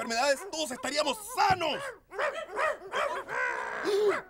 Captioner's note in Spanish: Sonidos de perros peleando atrás